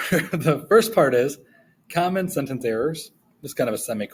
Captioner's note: chuckling